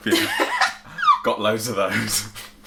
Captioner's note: laughing